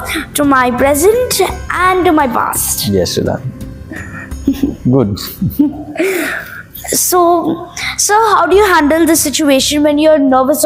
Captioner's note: laugh